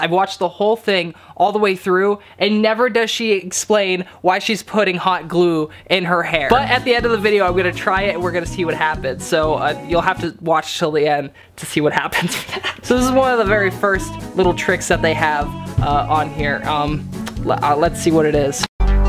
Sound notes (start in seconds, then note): 12.1 laughing